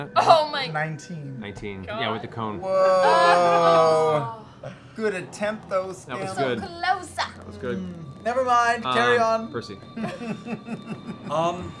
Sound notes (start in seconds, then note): 2.6 groaning